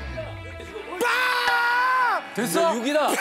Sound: screaming

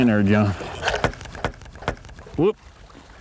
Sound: slam, slam, slam

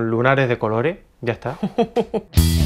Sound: ironically chuckling

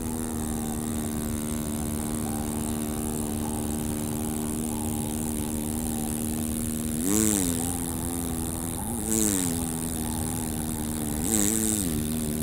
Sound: wind howling; vw bug engine

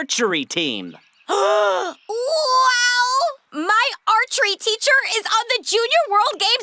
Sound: gasps

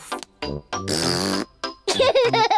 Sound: blows raspberry; giggles

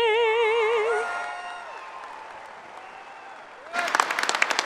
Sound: cheering and applauding

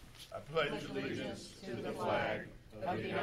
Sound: in Unison

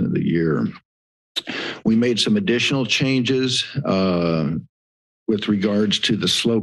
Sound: inhales

